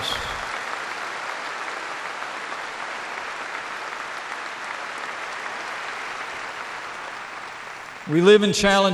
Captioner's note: applause